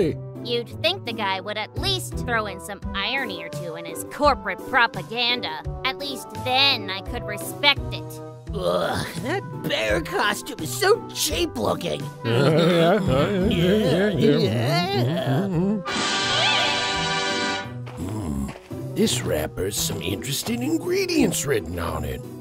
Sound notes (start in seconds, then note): 12.2 murmurs in agreement